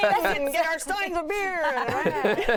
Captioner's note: laughter